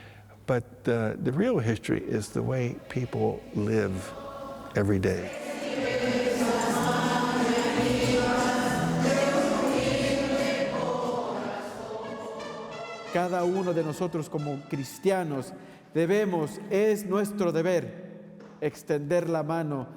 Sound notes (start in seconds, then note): 5.9 mexican music; 13.3 speaking in foreign language